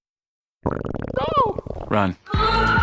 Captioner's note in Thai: กร้วกกก ท้องร้อง